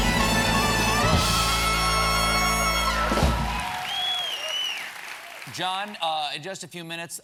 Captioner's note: cheers and applause